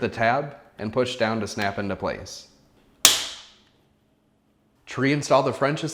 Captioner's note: part snaps